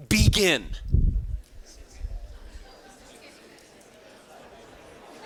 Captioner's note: students chattering